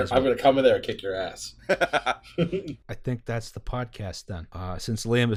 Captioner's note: laughter